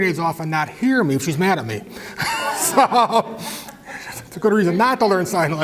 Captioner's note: laugh